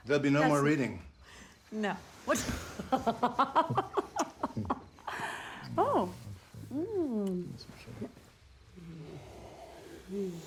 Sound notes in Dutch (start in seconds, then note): 2.3 lacht